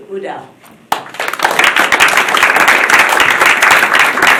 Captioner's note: applause